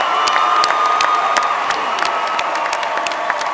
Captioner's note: cheers and applause